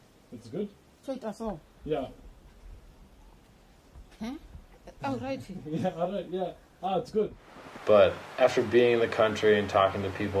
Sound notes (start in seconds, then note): 6.8 laughs